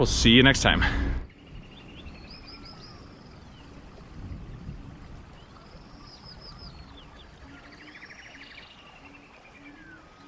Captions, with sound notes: We'll see you next time. (birds chirping)